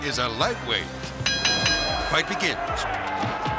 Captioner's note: bell rings